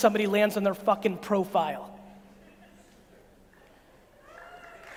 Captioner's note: audience clapping